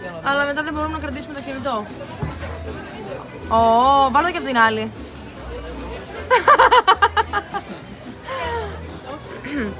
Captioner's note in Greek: γέλια